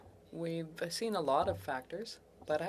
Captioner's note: speaking French